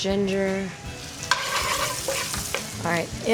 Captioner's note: ginger sizzling; spoon clanking on pan